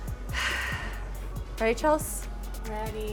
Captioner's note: sighs